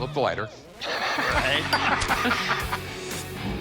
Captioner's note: laughter